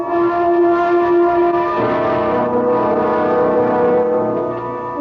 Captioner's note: horn blares